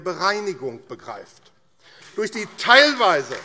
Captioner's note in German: Beifall AfD